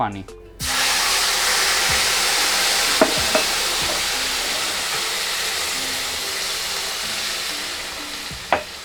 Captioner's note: buzzing sound